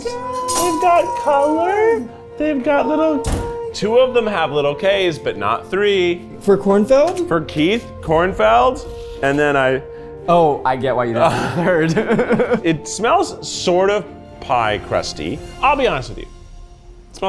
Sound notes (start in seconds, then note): 11.2 laughs